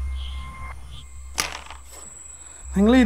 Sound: coin's shattering

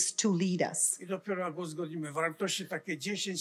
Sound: foreign language

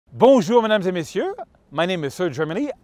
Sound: speaking foreign language

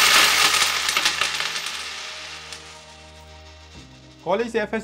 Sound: coins drop sound

